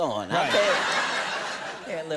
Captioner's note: audience laughing